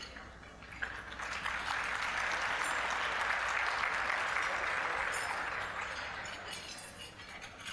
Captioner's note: applause